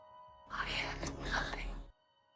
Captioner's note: voiceover